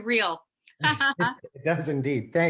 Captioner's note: laughs